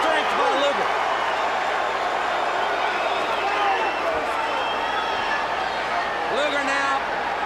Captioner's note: crowd chatter